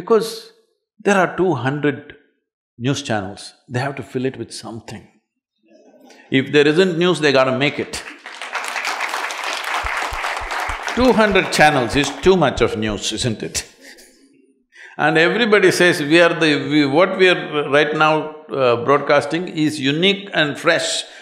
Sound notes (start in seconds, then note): 7.8 applause; 14.3 laughs